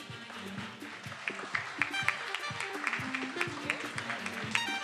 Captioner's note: attendees applauding; upbeat music